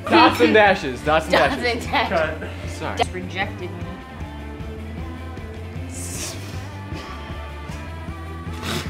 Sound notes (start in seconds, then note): 4.9 all laughing